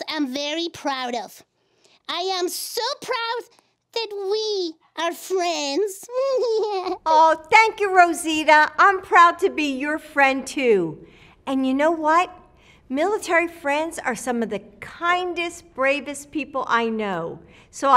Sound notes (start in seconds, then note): 6.0 laughs